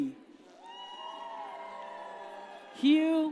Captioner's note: audience cheers